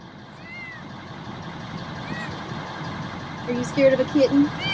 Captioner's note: cat meows